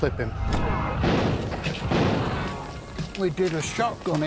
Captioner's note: gun blasts